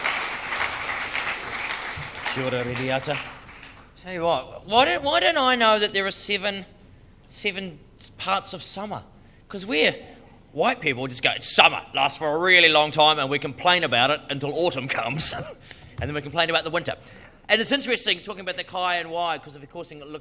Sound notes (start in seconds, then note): 2.2 speaks in foreign language